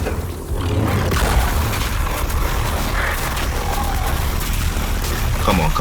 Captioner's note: lightsabers buzzing